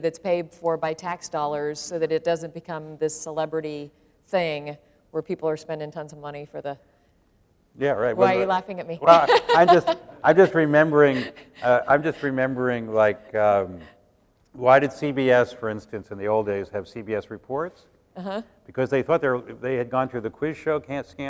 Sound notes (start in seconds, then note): 9.0 laughter